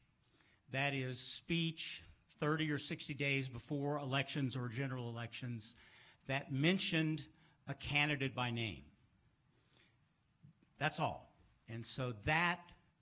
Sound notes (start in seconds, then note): none